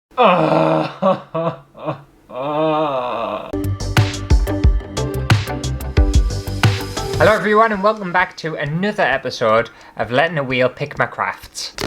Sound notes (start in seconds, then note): 0.0 hysterical Crying; 3.5 intro Music